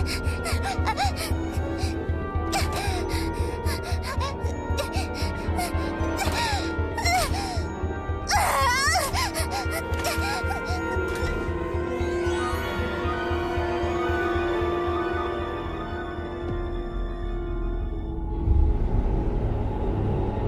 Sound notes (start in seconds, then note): 8.2 shouts; 17.6 dark music plays